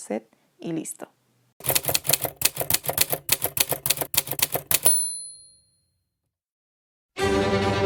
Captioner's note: typewriter sound; dramatic Music